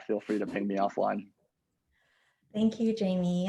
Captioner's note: laughs